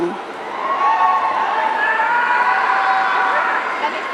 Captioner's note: audience cheering